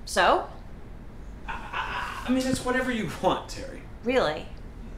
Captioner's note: stuttering